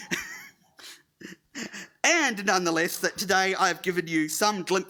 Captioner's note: laughing